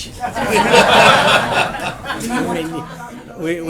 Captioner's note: laughter